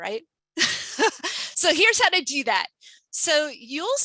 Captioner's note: laughs